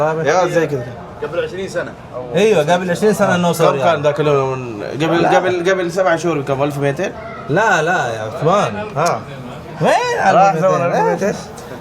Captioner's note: Arabic